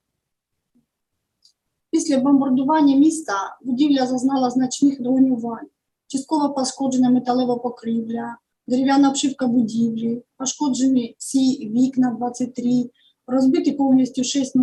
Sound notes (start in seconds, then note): 1.8 foreign Language